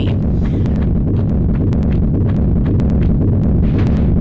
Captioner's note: boulder rolling